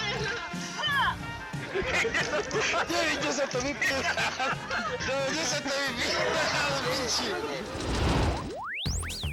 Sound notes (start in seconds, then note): 0.1 shouting; 1.5 friends laughing; 3.1 friends speaking in a foreign language; 7.6 air whoosh